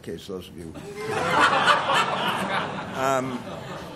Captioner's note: laughter